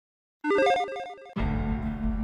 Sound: logo beeps; dramatic music

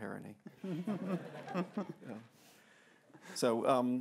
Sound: laughter

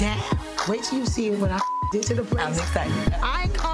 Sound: beep

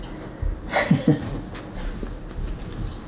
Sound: laughs

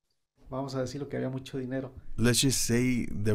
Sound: speaking Spanish

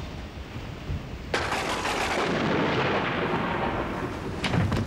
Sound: thunder

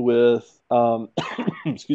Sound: cough

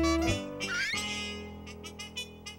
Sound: horn honking

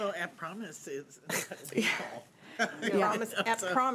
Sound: speech drowned out by chuckling

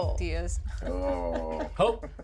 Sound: laughs

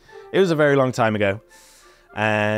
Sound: breathe in of contemplation

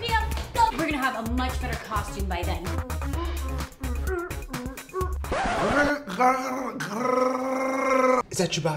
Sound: growling

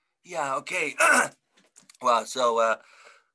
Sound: clears throat

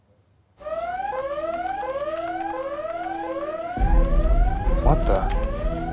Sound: silence; alarm blares

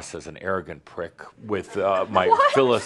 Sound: giggling

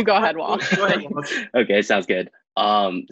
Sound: laughs

